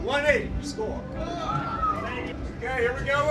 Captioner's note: cheering and whistling